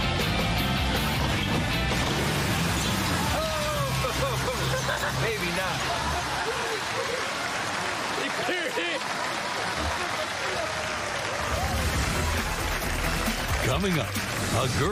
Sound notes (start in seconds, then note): 10.1 laughing; 11.5 upbeat music